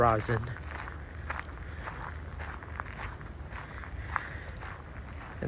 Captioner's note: walking on gravel